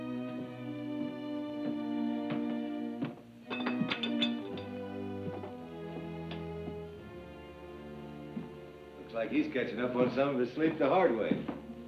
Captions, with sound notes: (dishes clatter) - Looks like he's catching up on some of his sleep the hard way.